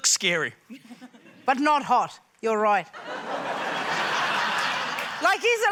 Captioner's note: laughter